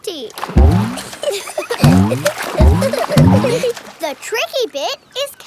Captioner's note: giggling